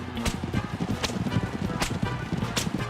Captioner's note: whipping noise